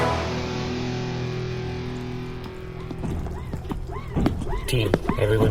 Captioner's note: hushed